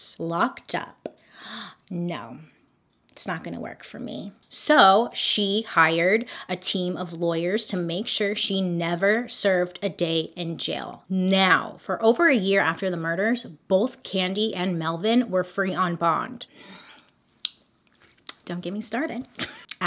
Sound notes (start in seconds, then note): 17.3 lip smack